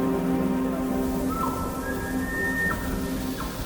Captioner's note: elk bugle